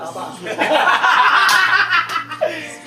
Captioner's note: ALL laughs